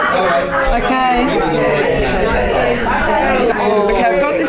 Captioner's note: participant chatter